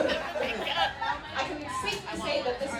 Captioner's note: audience laughing